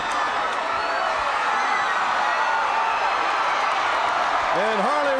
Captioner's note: crowd continues cheering